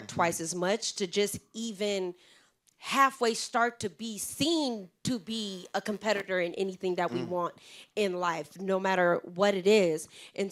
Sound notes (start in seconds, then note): none